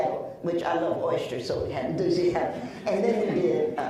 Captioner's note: laughs